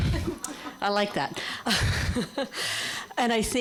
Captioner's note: laughter